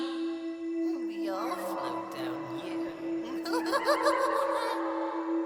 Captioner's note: laughs maniacally; creepy music continues